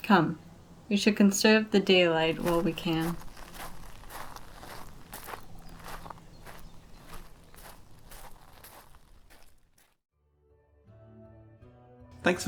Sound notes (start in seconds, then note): 2.2 grass/gravel footsteps; 10.9 outro music